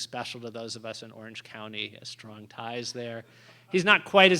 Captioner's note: laughter